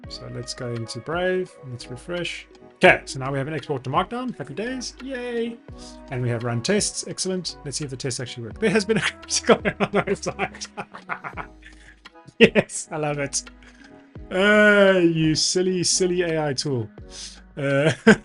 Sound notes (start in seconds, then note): 10.9 laughs